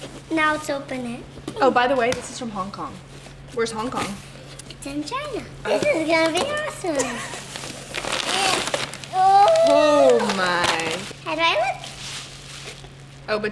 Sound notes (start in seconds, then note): 9.1 exclaiming